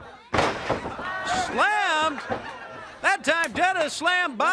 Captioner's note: crowd chatter